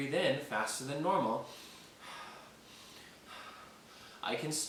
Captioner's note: breathing heavily